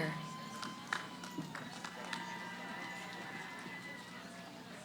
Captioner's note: cheering